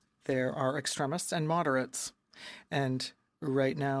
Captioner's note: speaking in french